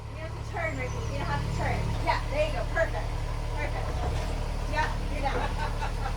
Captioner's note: laughs of relief